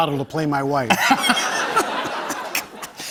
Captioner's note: laughter